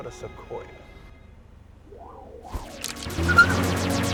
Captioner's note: whooshing; camera clicks; tires screech